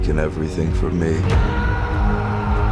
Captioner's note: shouts